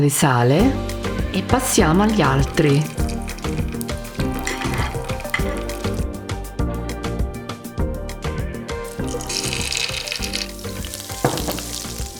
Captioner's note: speaking Italian